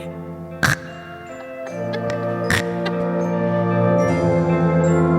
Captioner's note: snoring